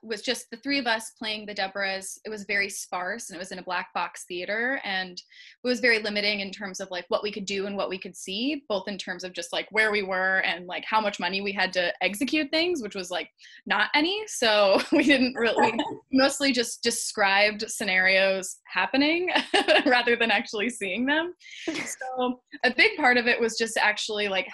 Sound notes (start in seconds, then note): 15.3 giggles; 21.6 laughs